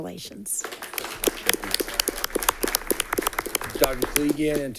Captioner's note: all clapping